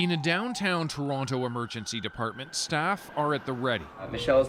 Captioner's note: sirens